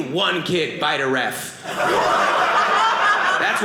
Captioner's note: audience laughing